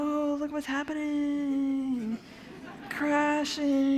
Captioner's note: laughter